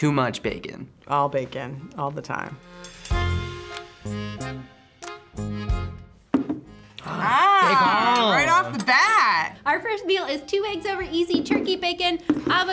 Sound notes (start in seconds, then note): 2.5 accordion music; 6.8 gasps